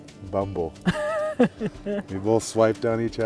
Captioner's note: laughing